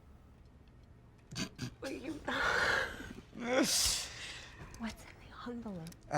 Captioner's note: Alex laughing